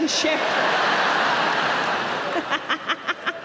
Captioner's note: audience laughing; Sarah laughing